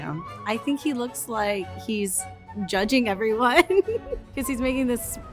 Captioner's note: laughs